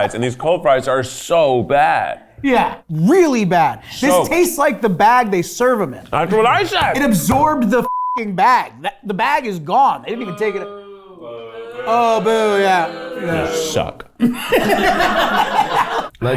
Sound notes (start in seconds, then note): 7.8 beep; 14.1 all laughing